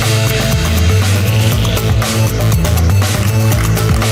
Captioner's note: applause